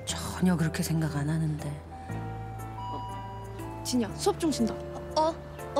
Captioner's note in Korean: 종소리